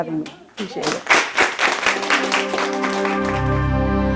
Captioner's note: applause